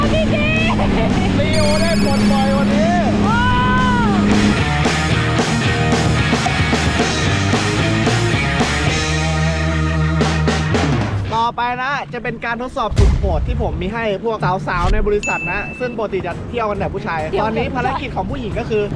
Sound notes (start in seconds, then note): 3.2 screams; 4.4 rock music playing